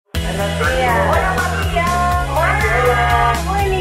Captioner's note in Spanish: Ruido de la calle y personas hablando